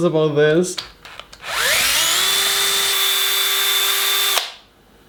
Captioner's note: drill sounds